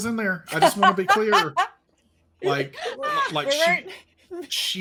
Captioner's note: laughing